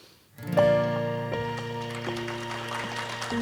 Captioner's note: audience applauds